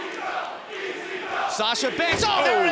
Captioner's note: fans chanting